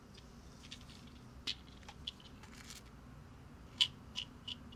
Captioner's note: pills rattling